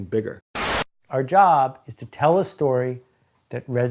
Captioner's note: static